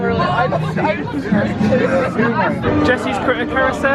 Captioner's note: people chattering